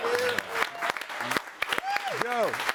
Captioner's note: audience cheering and applauding